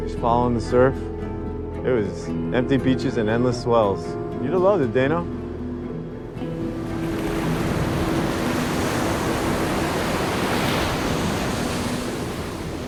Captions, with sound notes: Just following the surf. It was empty beaches and endless swells. You'd have loved it, Dayno. (waves crashing) (tense music)